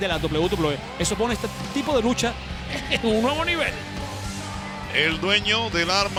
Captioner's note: laugh